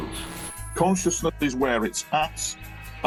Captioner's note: static crackling